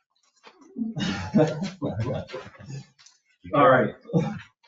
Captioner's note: people chuckle